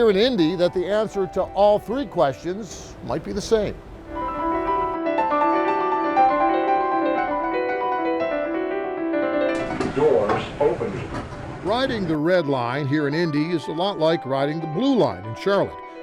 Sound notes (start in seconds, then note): 3.8 fluttery piano music; 9.8 Electronic voice